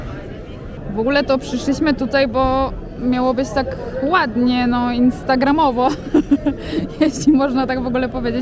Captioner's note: laughs